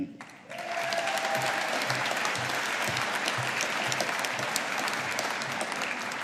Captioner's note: audience applauding